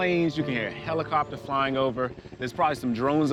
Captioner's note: helicopter flying past